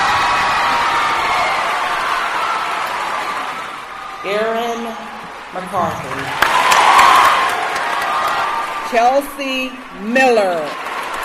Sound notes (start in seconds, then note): 0.0 cheering; 0.3 cheering and applause; 6.5 cheering and applause